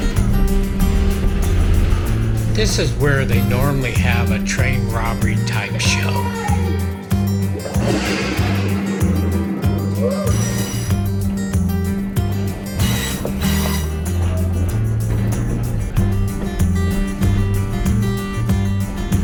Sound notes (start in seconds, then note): 7.4 train Sounds; 7.9 boom